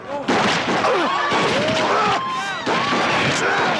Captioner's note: gunshots ringing